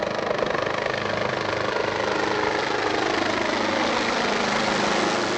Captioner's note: helicopter passing